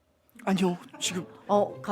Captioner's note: hesitant